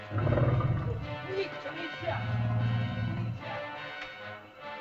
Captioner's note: dinosaur growls; suspenseful music; frightened chatter; dinosaur growls; suspenseful music